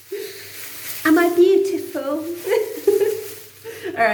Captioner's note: funny voice